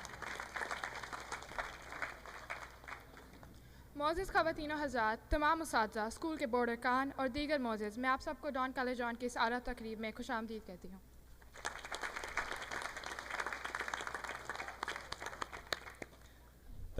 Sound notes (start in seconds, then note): 0.0 audience clapping; 4.3 speaking in foreign language; 11.4 audience clapping